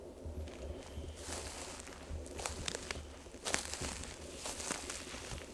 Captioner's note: leaves crunching